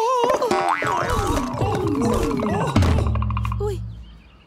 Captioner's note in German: Rollendes Geräusch, Schreie